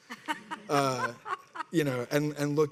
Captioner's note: people laughing